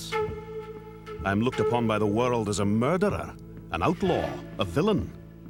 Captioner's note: Spoken as Morrison